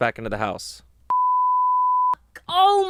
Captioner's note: beep